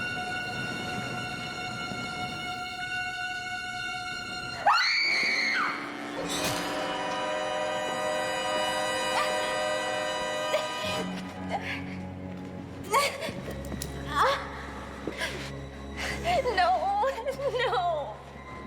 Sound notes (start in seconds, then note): 4.5 screaming; 11.1 grunting